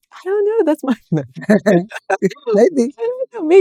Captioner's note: laughing